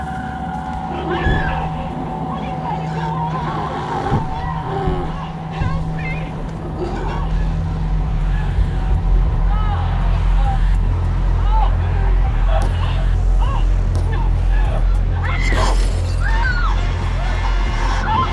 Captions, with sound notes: (screaming) What are you trying to do? Aaahhh! Help me! Ahh, no (screaming)